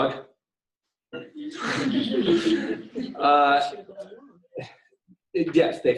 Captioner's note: laughter